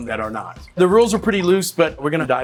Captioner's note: whiskey pouring